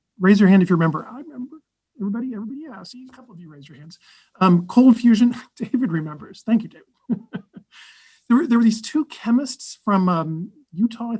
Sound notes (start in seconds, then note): 7.0 giggles